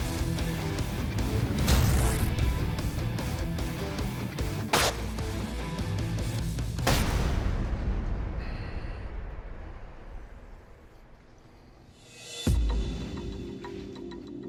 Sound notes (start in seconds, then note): 3.0 blade impacts